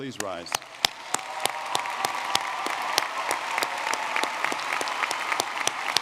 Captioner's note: audience cheering and clapping